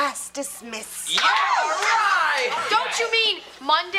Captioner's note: students cheering